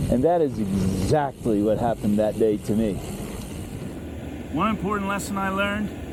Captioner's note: fire burning